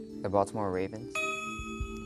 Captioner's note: ding